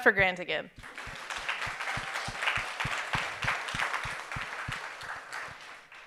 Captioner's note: audience cheering and applauding